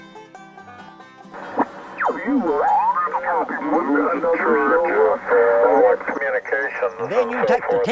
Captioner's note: banjo Music; ham radio sounds